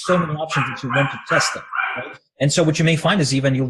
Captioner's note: dog barking drowns out speech